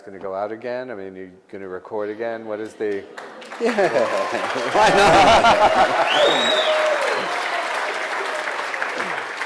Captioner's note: applause